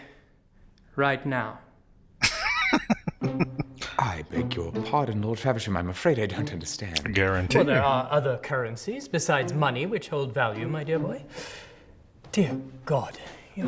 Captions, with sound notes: [Laughing] A guarantee.